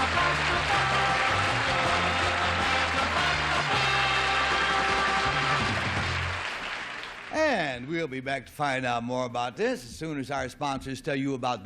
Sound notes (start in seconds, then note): 0.0 theme music; 2.9 applause